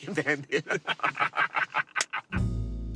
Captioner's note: laughing